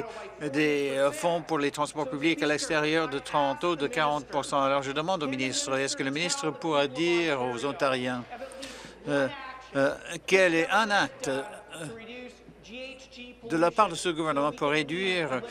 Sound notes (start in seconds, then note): none